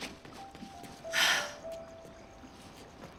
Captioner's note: sigh